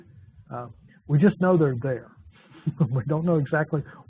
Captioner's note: laughs